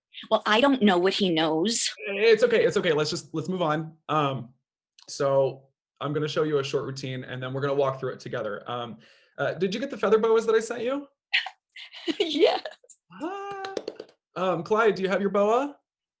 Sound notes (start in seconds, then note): 13.4 claps